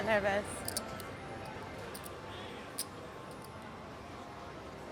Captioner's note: soft clacking